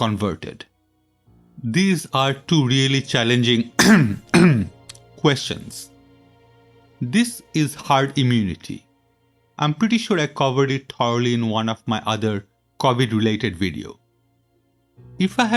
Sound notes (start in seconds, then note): 3.8 cough cough